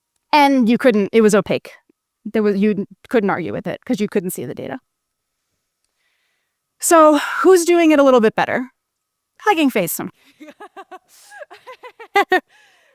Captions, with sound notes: It was opaque. You couldn't argue with the data because you couldn't see it. Who's doing it a little better? Hugging Face sometimes. [Laughs]